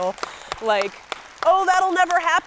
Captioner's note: guy and audience clapping